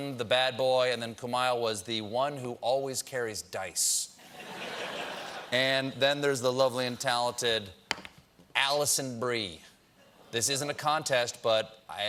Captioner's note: laughter